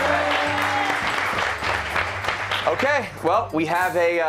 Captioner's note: cheers and applause